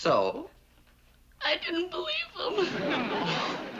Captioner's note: crying